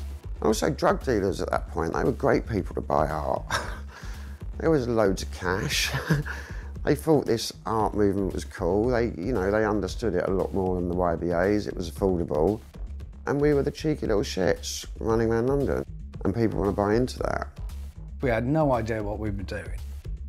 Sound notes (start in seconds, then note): 3.4 chuckles